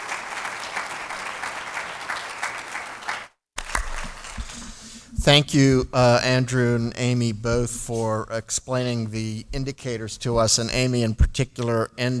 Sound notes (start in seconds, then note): 1.8 applause